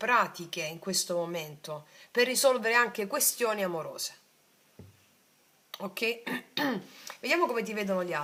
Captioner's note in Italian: schiarire la voce